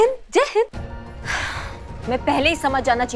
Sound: sighs

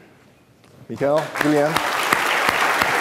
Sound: applause

